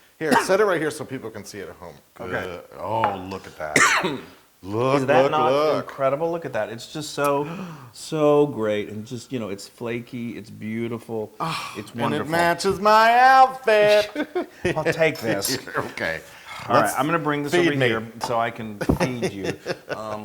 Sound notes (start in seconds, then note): 3.7 cough; 13.6 laugh; 18.8 laugh